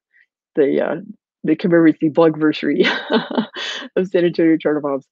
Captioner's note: laughing